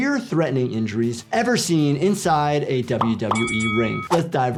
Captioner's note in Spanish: suena la campana